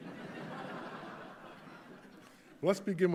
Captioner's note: audience laughing